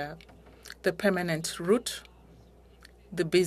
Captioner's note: speaking French